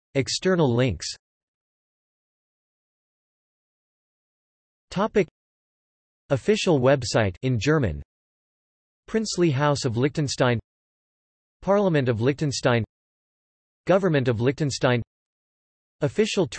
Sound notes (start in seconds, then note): 8.2 in German